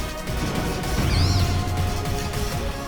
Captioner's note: Brute Bonnet's cry